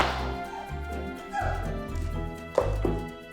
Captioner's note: audrey grunts